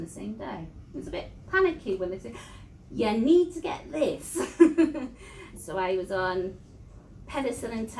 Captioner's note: laughs